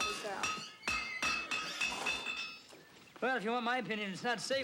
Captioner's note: horse whinnies